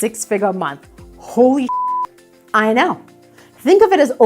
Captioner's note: beep